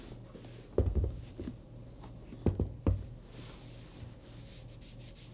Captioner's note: shoe gently thumps